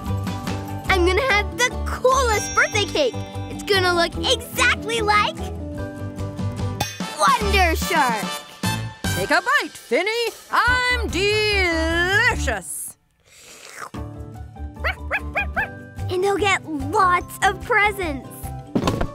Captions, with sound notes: I'm gonna have the coolest birthday cake. It's gonna look exactly like Wonder Shark! - Take a bite, Finny! I'm delicious! (tongue slurps) (Sparky barks) And I'll get lots of presents!